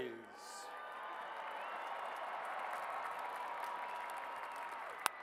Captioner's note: cheers and applause